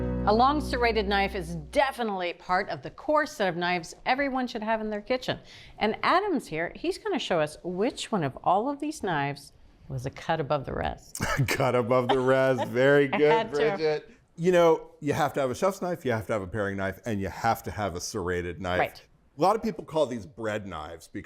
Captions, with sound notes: - A long serrated knife is definitely part of the core set of knives everyone should have in their kitchen. And Adam's here. He's gonna show us which one of all of these knives was a cut above the rest. - (chuckles) "Cut above the rest." Very good, Bridget. - I had to. - You know, you have to have a chef's knife you have to have a paring knife and you have to have a serrated knife. - Right. - A lot of people call these bread knives